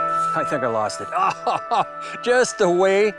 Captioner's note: laughs